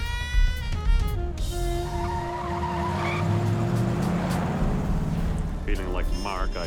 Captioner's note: tires screeching